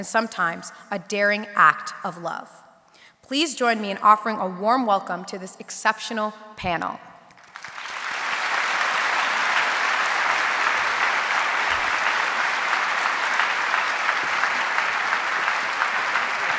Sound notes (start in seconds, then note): 8.2 audience applauding